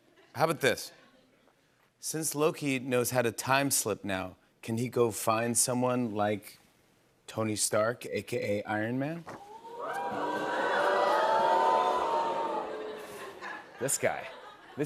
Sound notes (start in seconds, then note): 9.4 audience oohs